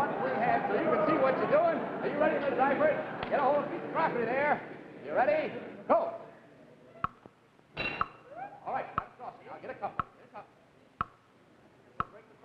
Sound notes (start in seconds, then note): 7.7 saucer clanging